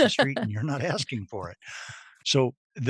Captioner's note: laughing